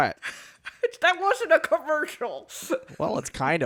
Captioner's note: laughing